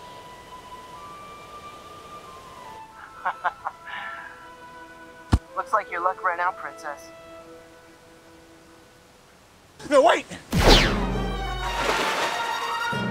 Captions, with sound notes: [Scout Laughs] Looks like your luck ran out Princess No wait! [Blaster Shot] [Splash]